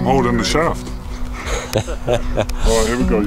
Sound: host laughing

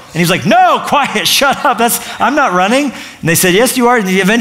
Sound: none

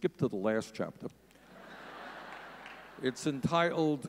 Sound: audience laughing

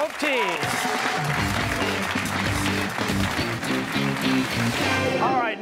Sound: cheers and applause

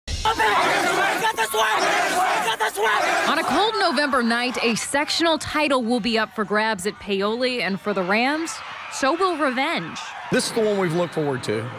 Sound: students cheering

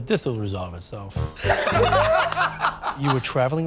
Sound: laughter

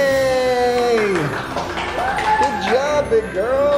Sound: clapping

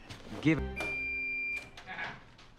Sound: microwave beeping done noises

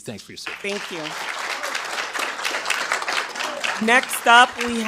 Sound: attendees applauding

